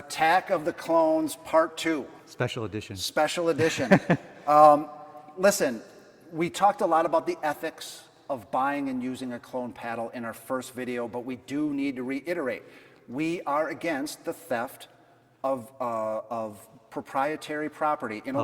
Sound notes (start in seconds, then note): 3.6 laughing